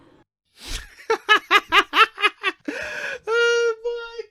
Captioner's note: laughter intensifies